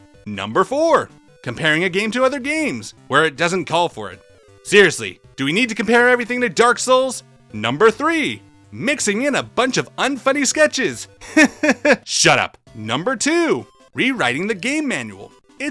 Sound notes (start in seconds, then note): 11.2 laughs